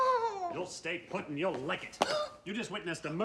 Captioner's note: frustrate groaning; gasps